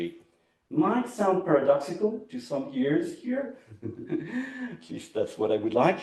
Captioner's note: laughs